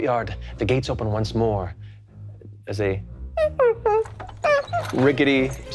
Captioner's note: imitates squeaking wheels